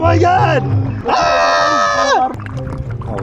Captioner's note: screams in agonizing pain